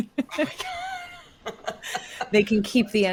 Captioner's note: laughs